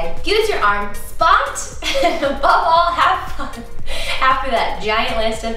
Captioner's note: laughs